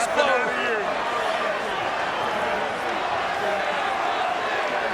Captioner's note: all chattering